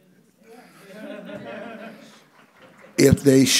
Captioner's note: audience chuckles